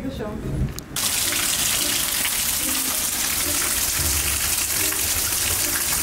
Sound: rain splatters against sidewalk

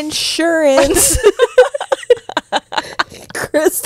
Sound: panel laughing

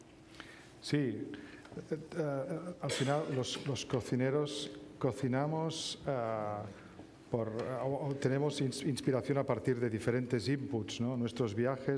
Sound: speaking spanish

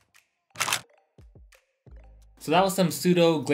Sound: shutter click

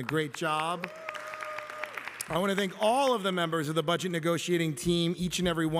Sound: applause

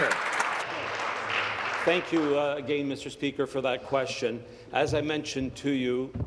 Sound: applause

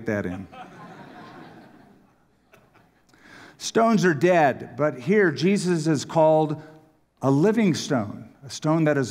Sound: laughter

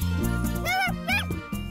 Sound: barking

